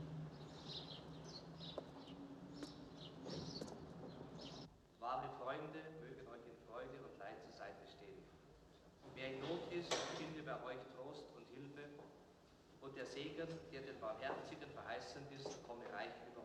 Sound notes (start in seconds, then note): 5.1 priest speaking in german